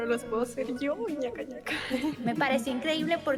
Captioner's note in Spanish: risa malvada